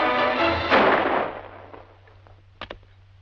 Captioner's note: gunshot